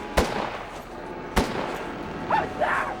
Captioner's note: gun bangs